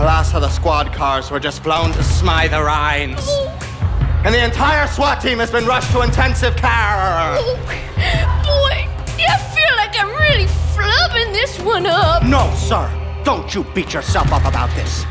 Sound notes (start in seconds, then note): none